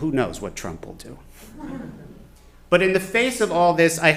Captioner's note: chuckling